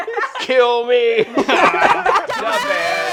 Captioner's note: laughing